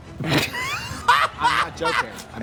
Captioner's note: Trixie cackles